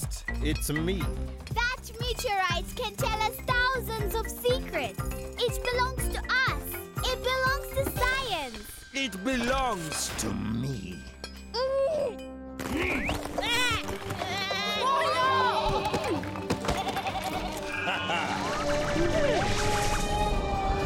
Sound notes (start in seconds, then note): 10.0 Sema growls angrily; 11.3 Tobor grunts; 12.9 bleating; 16.6 bleating; 16.8 Tobor chuckles